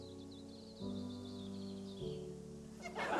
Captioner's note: birds twitter